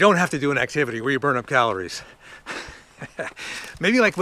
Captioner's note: laughs